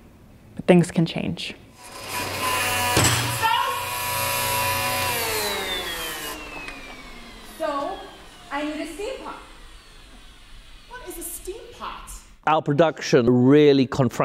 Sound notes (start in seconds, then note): 1.9 vacuum whirring; 2.8 slams table; 4.4 vacuum powering down